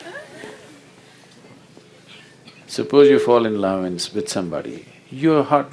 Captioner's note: laughter